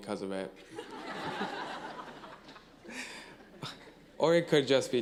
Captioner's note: laughing